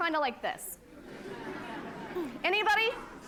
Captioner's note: laughter